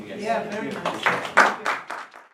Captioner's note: applause